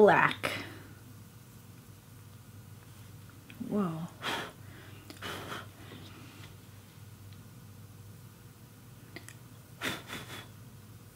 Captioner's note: silence